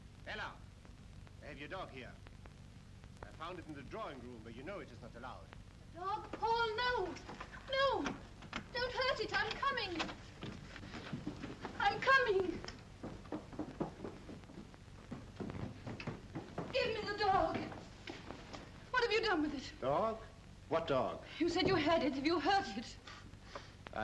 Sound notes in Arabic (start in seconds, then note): 7.0 يُفتح الباب; 13.0 خطوات على الدرج